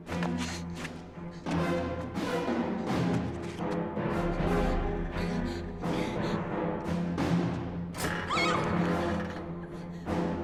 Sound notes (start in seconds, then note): 5.1 gasping; 8.0 scream